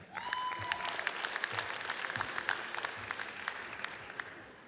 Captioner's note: audience cheers and applauds